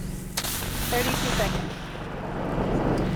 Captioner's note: pop; fizzle sound